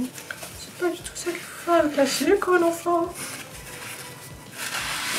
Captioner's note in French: voix de fausset